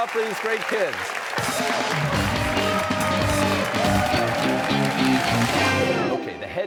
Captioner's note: cheers and applause